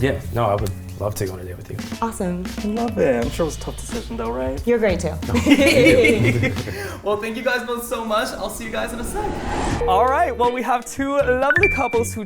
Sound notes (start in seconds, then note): 5.2 laughing